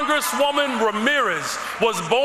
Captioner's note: cheers and applause